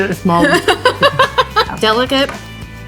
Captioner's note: laughs